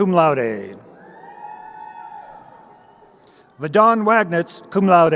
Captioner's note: crowd cheering